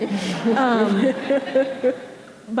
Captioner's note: audience laughing